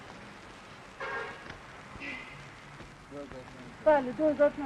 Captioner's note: horns honking; speaking foreign language